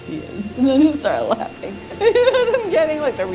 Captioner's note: laughter